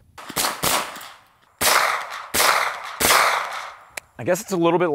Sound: gun firing repeatedly

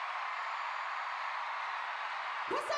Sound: song ends, cheers and applause

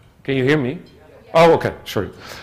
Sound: murmurs of agreement

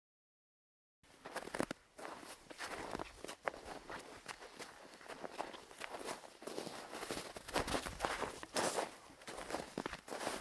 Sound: steps in the snow

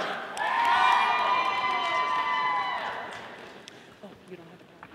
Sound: audience applauding

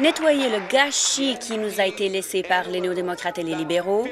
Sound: applause

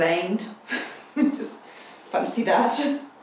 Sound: laughs

